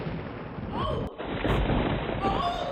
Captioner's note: thunder